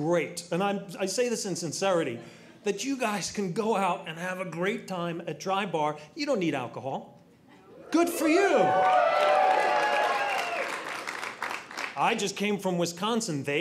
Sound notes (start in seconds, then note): 7.8 audience cheering